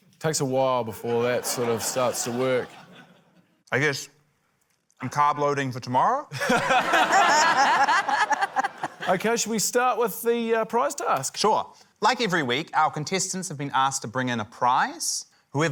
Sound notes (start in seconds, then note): 6.3 laughter